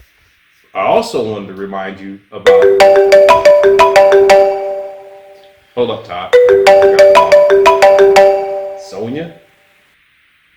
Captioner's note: phone rings